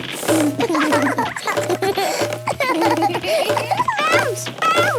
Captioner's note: both laugh